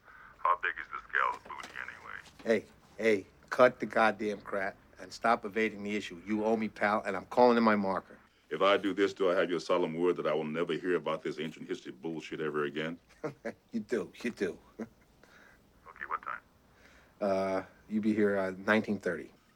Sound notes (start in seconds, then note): 13.0 chuckling